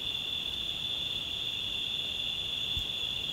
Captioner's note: crickets chirping